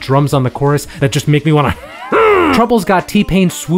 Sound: grunts

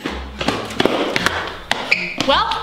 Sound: loud footsteps

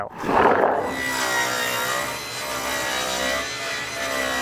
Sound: saw buzzing

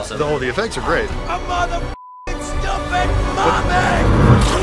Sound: beeping

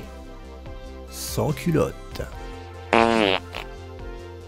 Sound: noise of proute

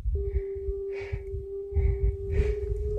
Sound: sound of climbers breathing from effort

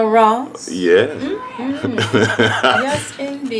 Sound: laughing

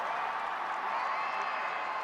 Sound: cheers and applause

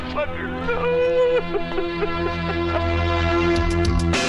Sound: wailing

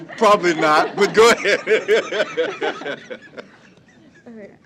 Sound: laughter

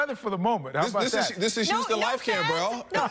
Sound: laughter

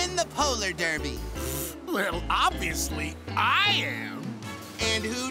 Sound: scoffs

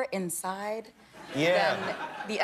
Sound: laughter

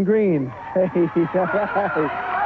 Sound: crowd cheering

